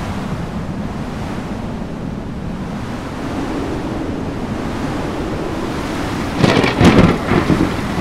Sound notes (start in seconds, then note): 3.9 strong wind; 6.2 thunder